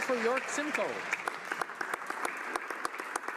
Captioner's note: some Applause